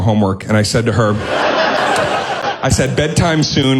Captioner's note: audience laughing